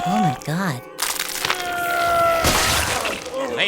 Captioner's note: grunts of exertion